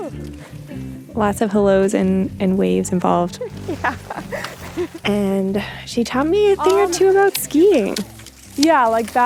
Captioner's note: laughs